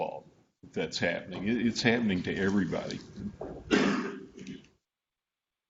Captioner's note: coughs